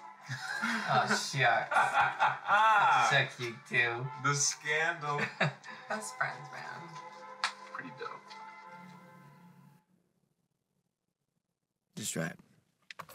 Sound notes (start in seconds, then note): 0.3 Mike laughs; 5.1 Val chuckles